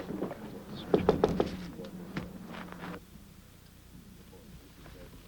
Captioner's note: knocking at window